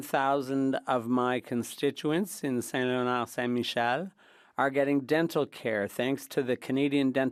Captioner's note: speaking French